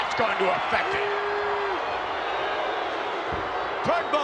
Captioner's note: crowd yelling